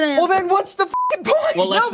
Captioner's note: beep